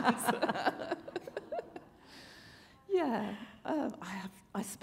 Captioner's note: chuckle